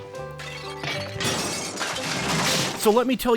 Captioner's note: clattering of dishes